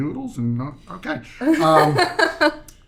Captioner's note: laughing